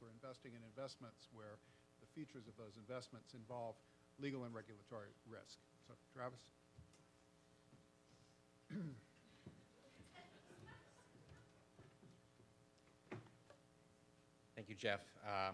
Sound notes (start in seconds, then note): 10.0 participants laugh